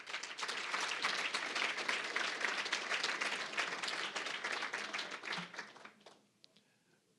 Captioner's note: applause